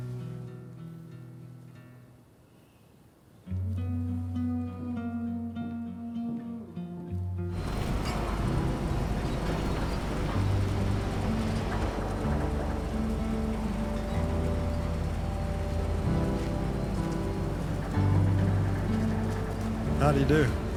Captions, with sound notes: [SENTIMENTAL MUSIC] [LOUD WHIRRING] How did he do?